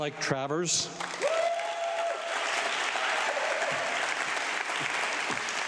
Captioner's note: audience clapping